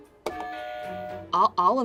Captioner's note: buzzer rings